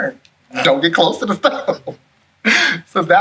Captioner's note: laughs